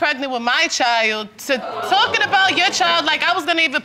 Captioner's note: audience exclaims